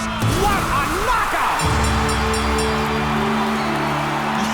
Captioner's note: dinging, cheering